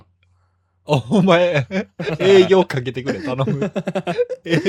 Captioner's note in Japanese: 笑い